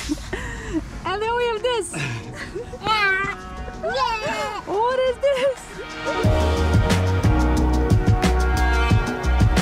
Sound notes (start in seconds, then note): 2.0 laughs; 3.2 chatters; 5.8 upbeat music